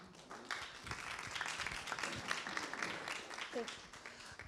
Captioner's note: clapping